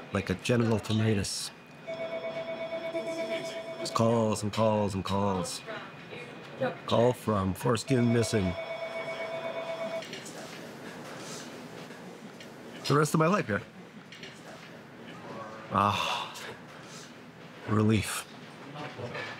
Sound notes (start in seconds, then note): 1.8 telephone ringing; 7.8 telephone ringing; 15.8 sighing